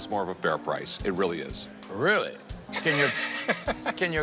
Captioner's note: laughs